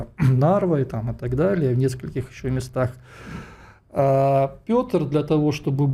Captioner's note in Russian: откашливается